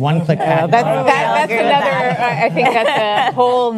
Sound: panelists laugh

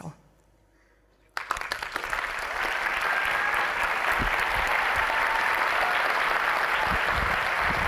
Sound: applause

